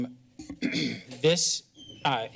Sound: clears throat

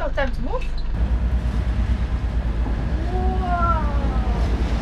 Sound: waves crashing

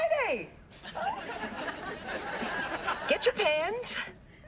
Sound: audience laughing

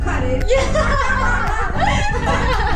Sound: laughing

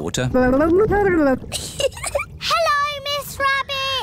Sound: gurgles; giggles

